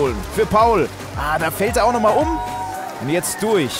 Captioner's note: Jubel